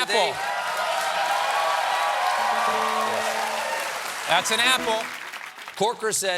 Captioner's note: cheers and applause